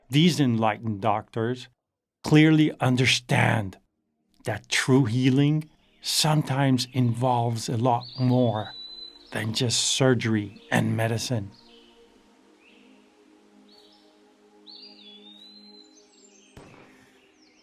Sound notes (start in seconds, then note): 5.3 birds chirping; 7.8 ethereal vocalized music